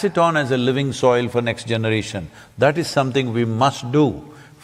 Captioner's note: none